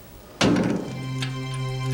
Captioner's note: cell doors shut; suspenseful music